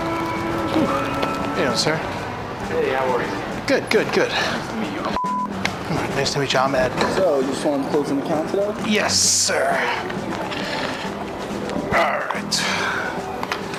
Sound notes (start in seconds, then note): 5.1 beep